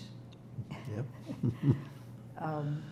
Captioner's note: laughing